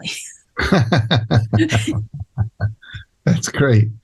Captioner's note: Jack chuckles